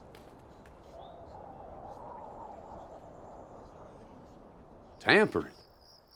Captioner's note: wind blowing